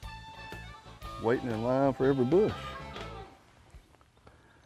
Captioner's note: birds chirping